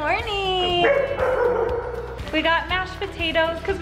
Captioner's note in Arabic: كلب ينبح